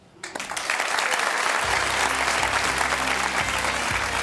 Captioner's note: audience applauds